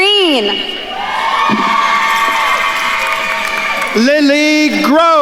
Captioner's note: attendees cheering and applauding